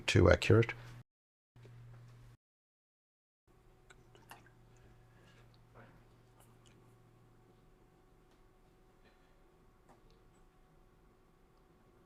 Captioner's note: silence